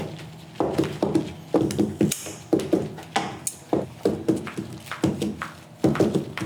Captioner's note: clunky rolling and scissor snip